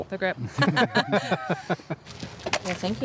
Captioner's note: laughing